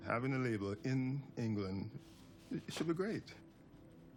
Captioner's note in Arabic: none